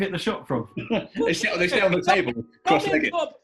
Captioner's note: laughs